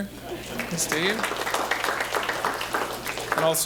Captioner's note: applause